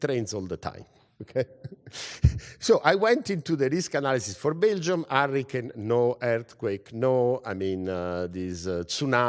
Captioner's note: laugh